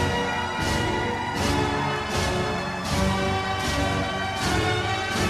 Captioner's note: crowd members cheering